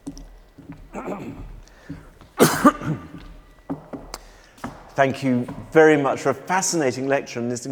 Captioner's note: clears throat